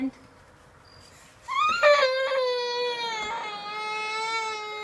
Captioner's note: crying